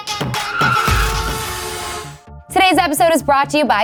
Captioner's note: upbeat music; tires squealing; honking